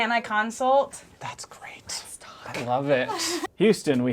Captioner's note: whispering